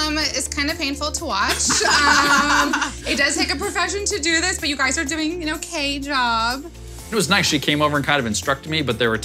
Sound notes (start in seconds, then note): 1.6 laughing